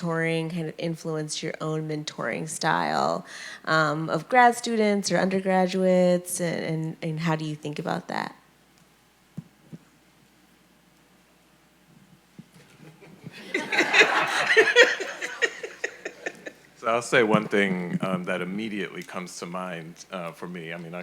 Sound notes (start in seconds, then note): 13.3 audience laughing